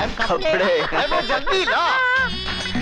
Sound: laughs

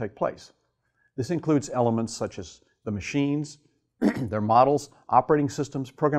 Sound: cough

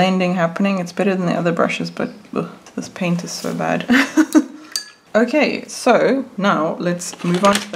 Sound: laughs

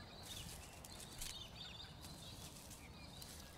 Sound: leaves rustling

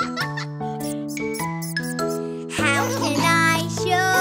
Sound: kids laughing; hamster squeaking

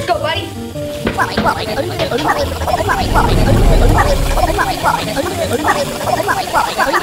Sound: germs gibbering; water rushing

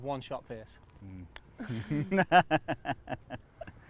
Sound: laughter

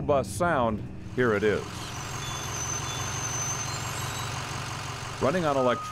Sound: diesel bus in yard

